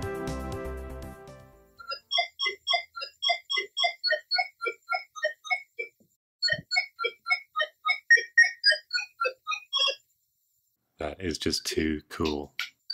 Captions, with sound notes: (Louder bloops and bleeps) That is just too cool!